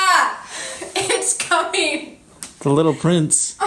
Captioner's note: laughing